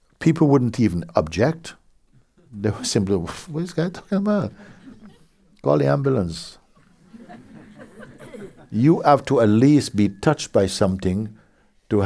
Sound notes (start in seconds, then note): 6.7 laughter